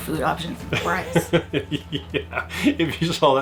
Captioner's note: laughing